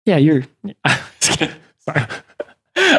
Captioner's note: laughter